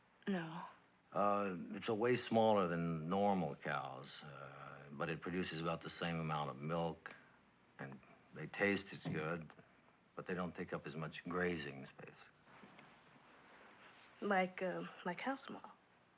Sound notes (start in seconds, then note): none